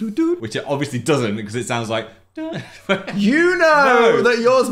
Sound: singing a tune; hums and laughs

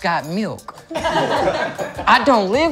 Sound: laughter

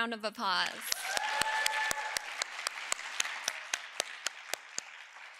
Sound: audience cheering

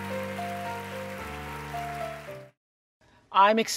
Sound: applause

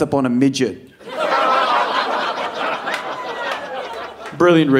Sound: audience laughing

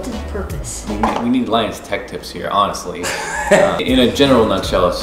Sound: laughs

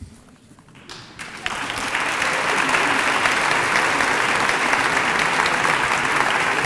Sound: applause

